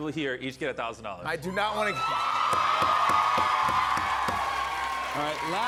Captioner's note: cheers and applause